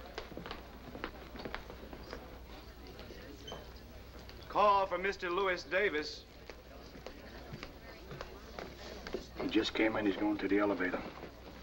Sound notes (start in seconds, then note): 3.7 voiceover